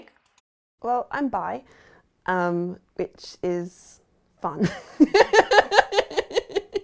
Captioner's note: laughs